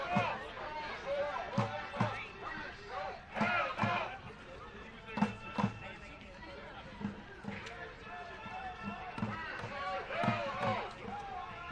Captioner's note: chanting